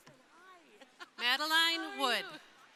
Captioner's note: laughing